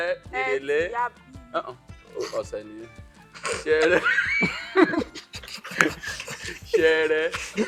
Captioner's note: everyone laughs